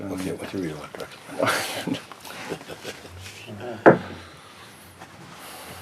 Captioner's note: laughter